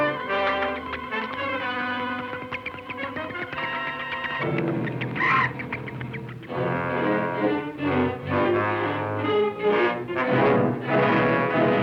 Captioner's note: chirping